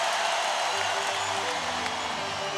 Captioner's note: crowd cheering